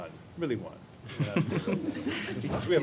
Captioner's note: laughter